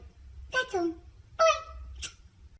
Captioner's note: smooch